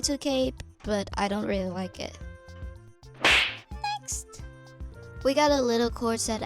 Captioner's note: slapping noise